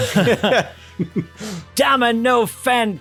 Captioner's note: laughter